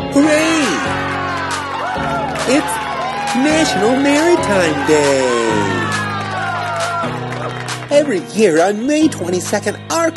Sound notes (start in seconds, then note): 0.0 cheerful music; 5.6 crowd cheering